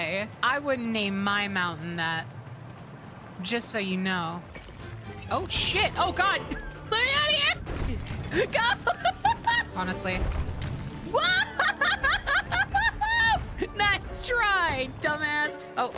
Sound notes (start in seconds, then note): 8.3 laughter; 11.1 laughter